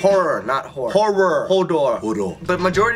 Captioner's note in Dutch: zware stem